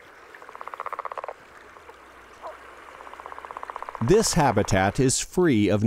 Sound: frog calls

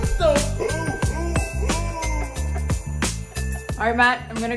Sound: Santa laughing

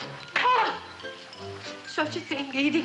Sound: smacking

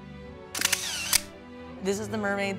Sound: camera clicking

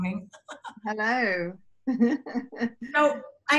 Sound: laughs

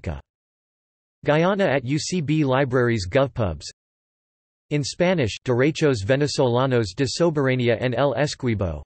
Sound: in Spanish

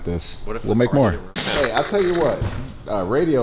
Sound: TV static

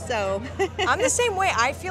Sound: laughing

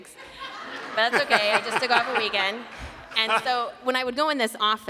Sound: laughter

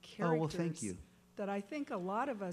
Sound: voiceover

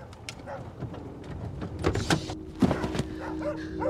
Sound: dogs barking; car door banging; brooding music

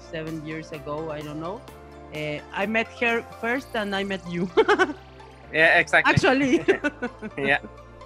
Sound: laughs

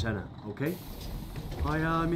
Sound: door closes

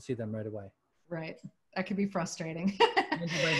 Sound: laughter

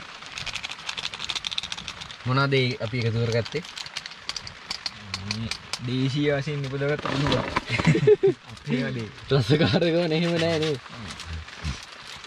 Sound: laughing

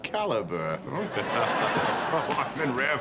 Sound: chuckling

